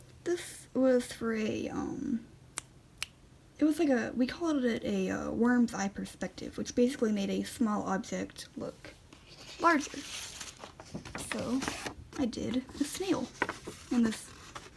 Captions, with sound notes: This was for a, um... *snap snap* It was like a-- we called it a, uh, "Worm's Eye Perspective", which basically made a small object look larger. So, I did... a snail! And, this...